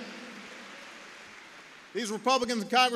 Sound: applause

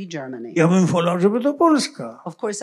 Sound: foreign language

